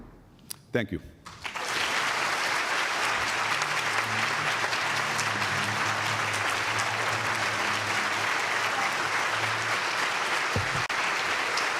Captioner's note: applause